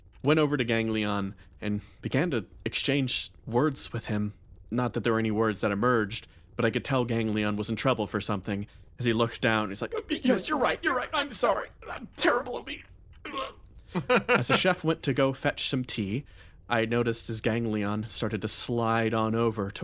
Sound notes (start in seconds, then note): 13.9 laugh